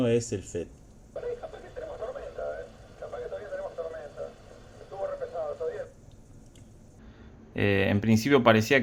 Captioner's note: radio receiving